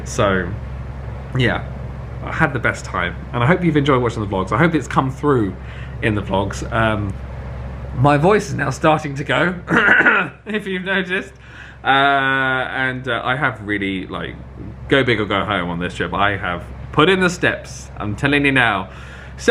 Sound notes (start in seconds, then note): 9.7 clears throat